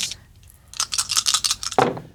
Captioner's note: dice rattling; dice rolling